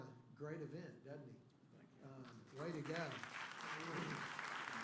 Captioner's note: applause